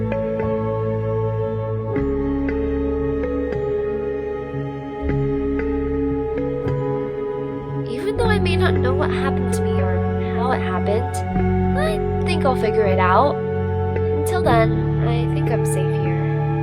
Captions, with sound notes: OMBRETTA (voice-over) Even though I may not know what happened to me or how it happened I think I'll figure it out. Until then I think I'm safe here.